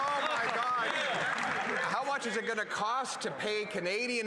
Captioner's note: applause